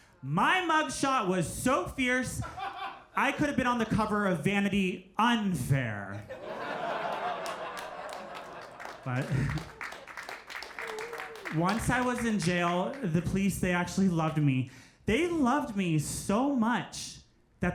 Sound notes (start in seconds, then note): 6.2 crowd laughs; 10.0 crowd applauds